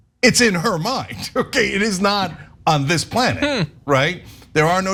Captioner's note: laugh